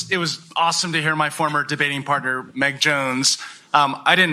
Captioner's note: none